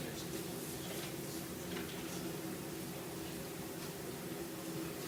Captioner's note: speaking faintly